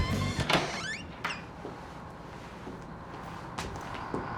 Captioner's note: door creaks